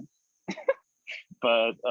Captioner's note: laughing